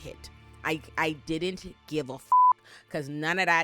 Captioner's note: beep